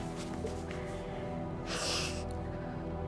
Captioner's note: sniffles